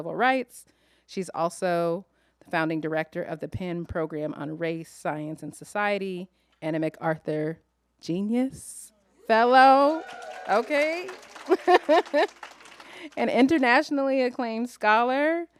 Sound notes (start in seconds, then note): 9.8 applause; 11.4 chuckles